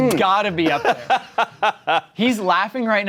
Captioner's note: laughs